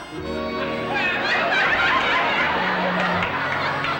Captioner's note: laughter